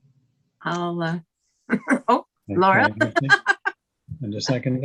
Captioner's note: laughing